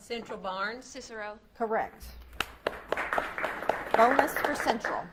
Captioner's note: audience claps